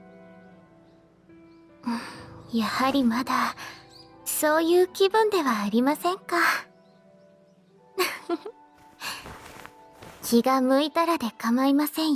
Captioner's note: laughs